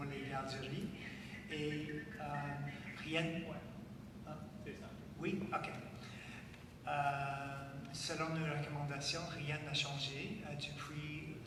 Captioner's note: speaking French